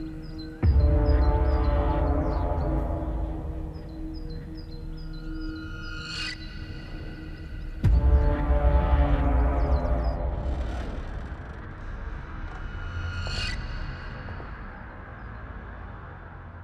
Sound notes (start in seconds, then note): 0.0 soft tense music; 0.2 soft ominous music; 3.6 soft tense music; 10.7 door creaking; 13.6 soft tense music